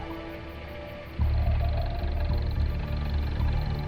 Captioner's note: engine idles